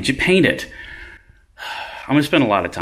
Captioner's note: sighs